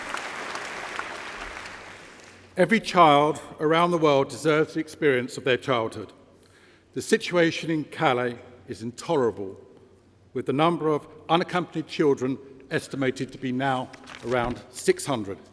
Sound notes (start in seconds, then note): 4.6 applause